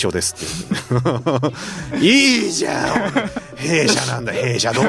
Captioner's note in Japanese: 笑い